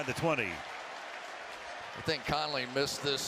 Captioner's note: crowd cheers